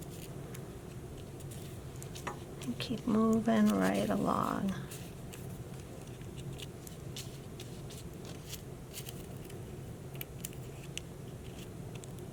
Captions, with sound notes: and keep moving right along. [brushing]